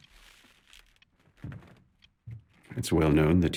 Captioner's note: chair thumping